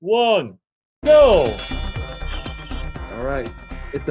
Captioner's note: bell ringing